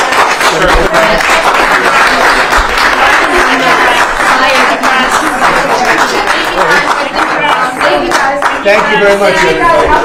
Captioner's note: applause